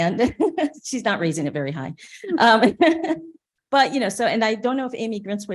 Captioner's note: chuckles